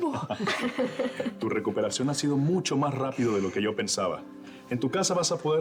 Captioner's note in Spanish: risas